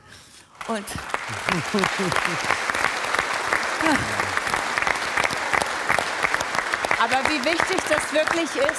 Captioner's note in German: Applaus